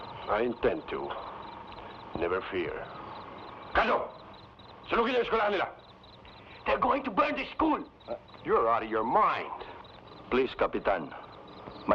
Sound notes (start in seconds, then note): 3.8 Magno speaking in Tagalog